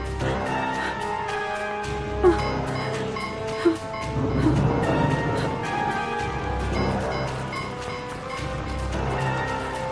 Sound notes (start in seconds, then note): 0.3 suspenseful music; 4.0 thunder rumbling